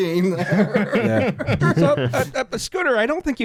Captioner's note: laughter